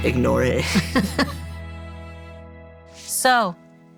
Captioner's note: laughing